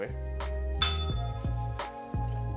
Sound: bell rings

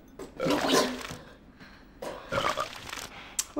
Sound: vomits

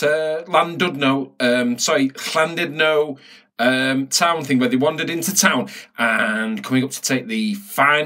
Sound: in Welsh

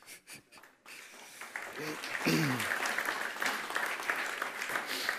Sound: audience applauding

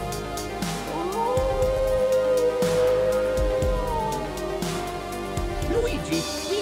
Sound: wolf howls

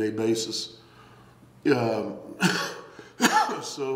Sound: coughing

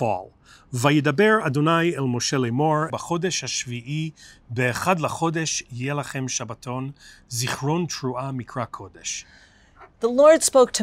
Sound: Hebrew

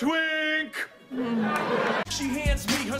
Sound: groans of disappointment

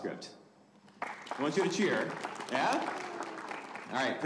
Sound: audience applauding

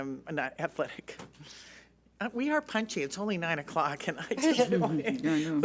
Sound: laughs

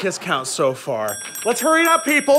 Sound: dinging

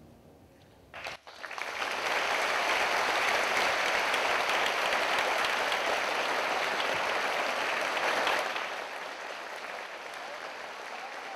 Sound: applause

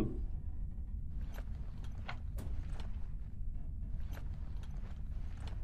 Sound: clicking

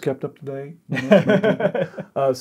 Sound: laughing

